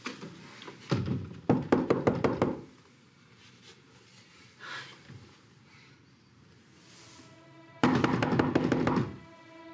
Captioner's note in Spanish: Toques en la puerta